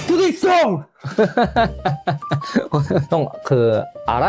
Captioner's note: laughs